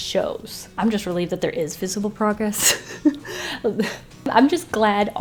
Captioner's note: laughs